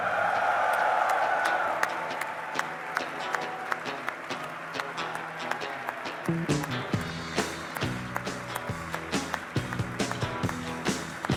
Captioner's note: applause; rock music playing